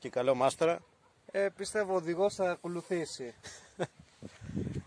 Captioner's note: chuckles